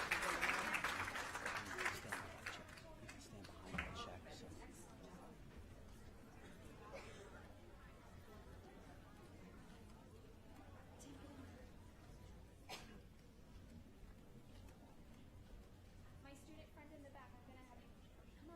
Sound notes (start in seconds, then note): 4.4 applause